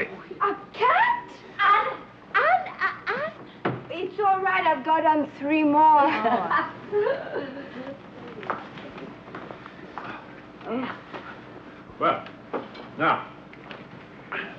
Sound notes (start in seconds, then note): 8.7 Petronella laughing